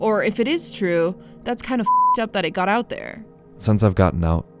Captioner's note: beep